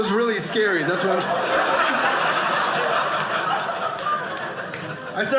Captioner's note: audience laughing